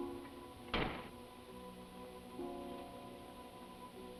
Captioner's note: door clicks